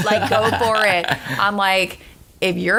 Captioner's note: laughter